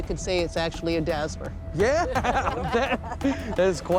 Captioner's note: laughing